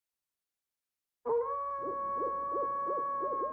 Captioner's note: wolves howling